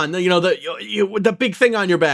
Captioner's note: stutters